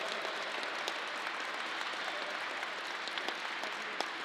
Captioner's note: crowd applause